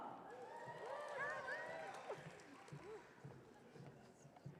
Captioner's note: audience cheering